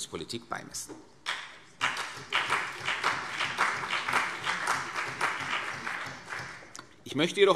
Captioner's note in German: Beifall CDU und BÜNDNIS 90/DIE GRÜNEN